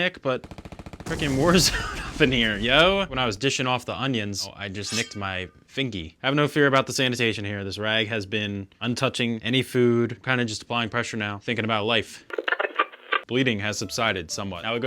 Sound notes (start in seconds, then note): 12.3 radio static